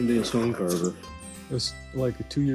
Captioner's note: gravel crunching sound